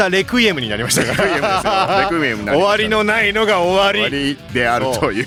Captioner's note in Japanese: 笑い